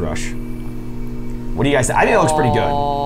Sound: machine whirring

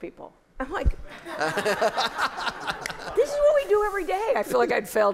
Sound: laughter

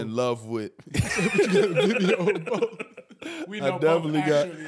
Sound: laughing

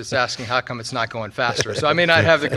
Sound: laughing

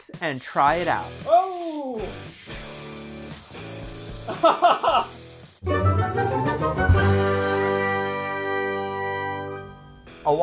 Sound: laughter

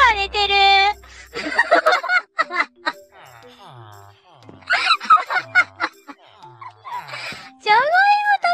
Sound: laughs

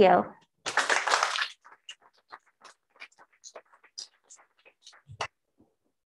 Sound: applause

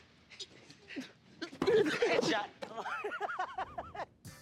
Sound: laughs

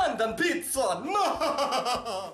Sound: scary laughs

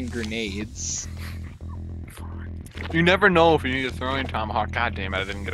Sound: laughs

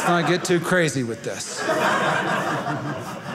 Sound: audience laughing

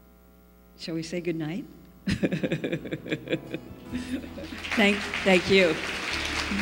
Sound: laughs; applause

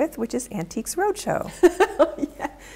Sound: laughing

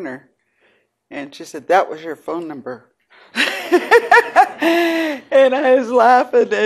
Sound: laughing

